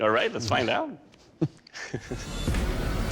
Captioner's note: laughs